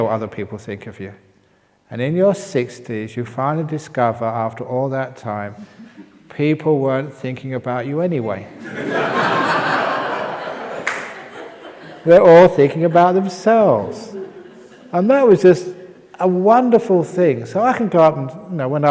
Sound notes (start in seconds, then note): 10.1 laughter